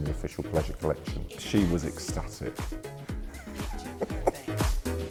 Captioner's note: laughs